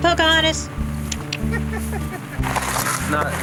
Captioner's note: laughing